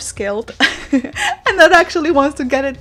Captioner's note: giggles